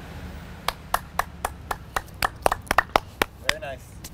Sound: clapping

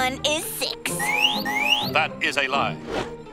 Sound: alarm

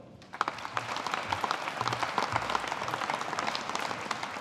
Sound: audience applauding

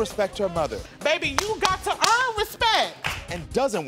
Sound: claps for emphasis

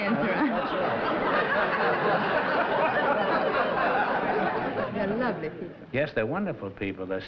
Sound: laughter

